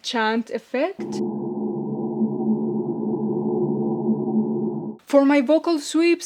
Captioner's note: low vocal droning